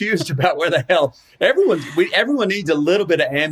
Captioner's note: laughing